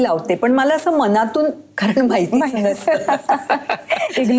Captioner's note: laughs